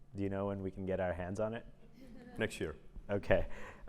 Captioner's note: laugh